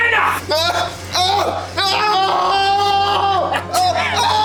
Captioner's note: officer speaking German; prisoner screaming